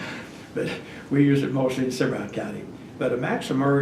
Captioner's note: laughs